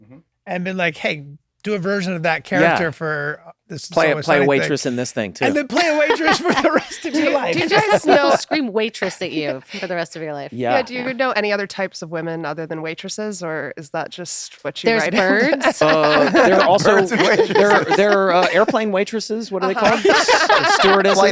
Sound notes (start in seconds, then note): 15.0 laughter